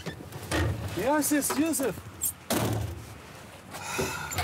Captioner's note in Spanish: Portazo